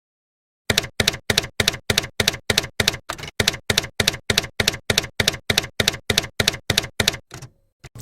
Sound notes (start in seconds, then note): 0.7 typewriter keys clacking